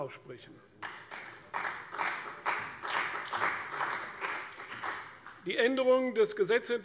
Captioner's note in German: Beifall bei der CDU und dem BÜNDNIS 90/DIE GRÜNEN